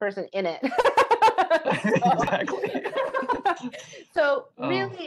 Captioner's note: both laughing